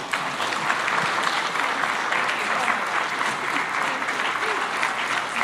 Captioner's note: applause